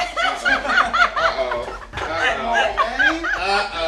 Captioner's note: all laughing; laughs